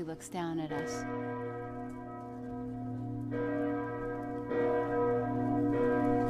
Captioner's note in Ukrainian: б'ють дзвони